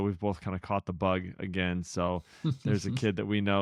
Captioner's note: laughs